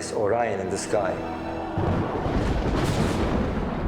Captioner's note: thunder